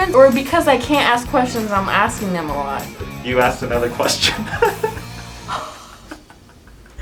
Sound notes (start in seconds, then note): 3.7 laughs